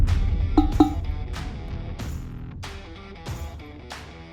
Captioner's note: note taps; circle booms